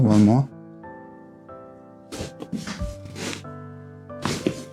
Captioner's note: crunches of bones